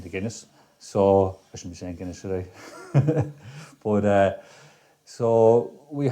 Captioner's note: laughs